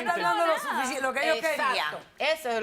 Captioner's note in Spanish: Hablan al unísono